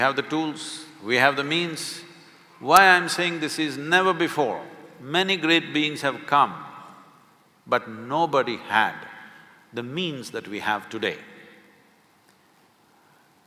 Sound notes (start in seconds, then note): none